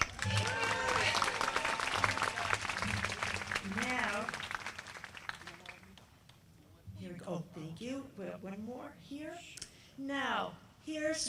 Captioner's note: applause